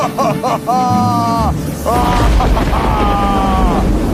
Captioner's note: laughs; thunder cracks